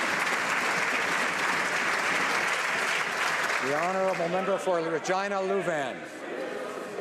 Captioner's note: some Applause